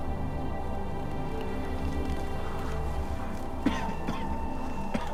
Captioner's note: огонь потрескивает